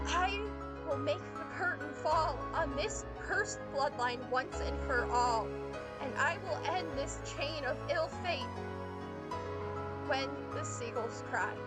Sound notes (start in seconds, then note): none